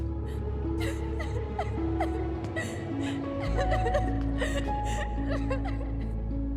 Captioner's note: crying